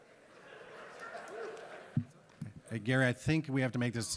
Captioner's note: audience laughing